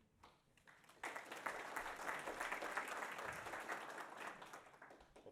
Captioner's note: audience applauds